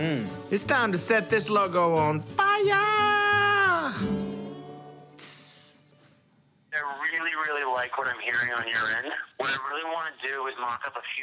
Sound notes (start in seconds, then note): 6.6 on phone